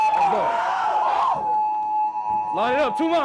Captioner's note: team cheers